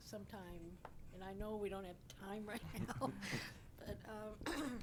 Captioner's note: chuckles